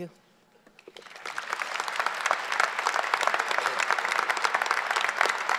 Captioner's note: audience applause